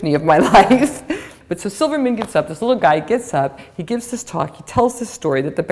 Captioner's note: chuckle